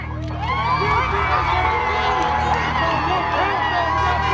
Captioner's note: crowd cheering